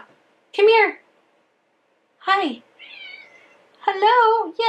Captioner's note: cat meowing